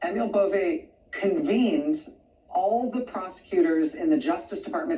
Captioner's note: none